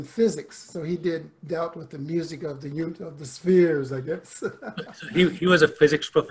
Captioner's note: laughs